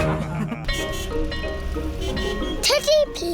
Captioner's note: all laughing; car horns beeping